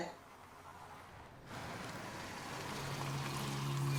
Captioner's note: car commotion; ominous music